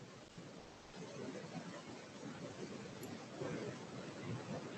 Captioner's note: white noise hissing